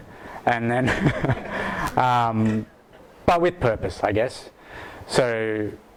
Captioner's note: laughs